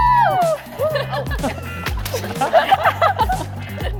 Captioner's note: group laughing